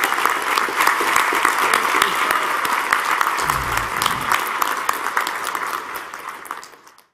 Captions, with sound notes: congratulations the class of 2022. >> [APPLAUSE]